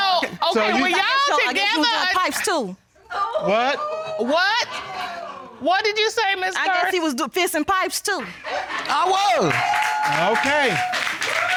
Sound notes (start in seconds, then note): 2.9 audience gasps; 8.8 audience cheers